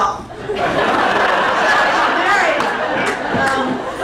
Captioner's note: crowd laughing intensifies